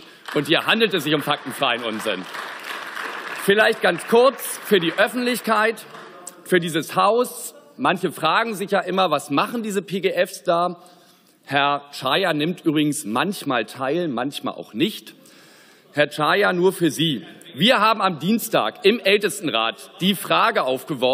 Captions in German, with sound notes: Und hier handelt es sich um faktenfreien Unsinn. (Beifall) Vielleicht ganz kurz für die Öffentlichkeit, für dieses Haus, manche fragen sich ja immer, was machen diese PGFs da, Herr Czaja nimmt übrigens manchmal Teil, manchmal auch nicht. Herr Czaja, nur für Sie. Wir haben am Dienstag im Ältestenrat die Frage aufgeworfen,